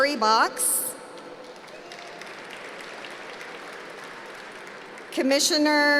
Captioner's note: applause